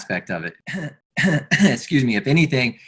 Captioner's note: interviewer coughs